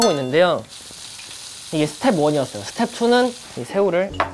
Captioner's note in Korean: 지글 지글